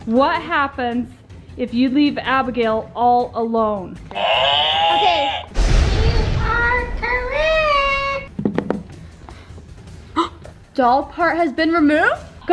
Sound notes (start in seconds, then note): 4.1 cow moos; 5.5 thunder booms